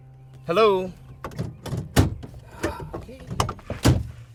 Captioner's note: clanging